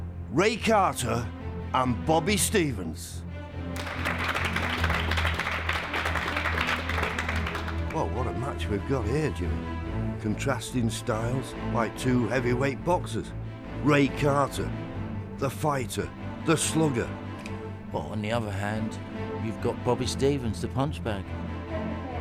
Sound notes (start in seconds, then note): 3.7 audience claps; 21.9 dramatic orchestral music